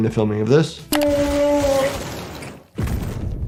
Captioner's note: whale moaning; liquid squirting; body thumping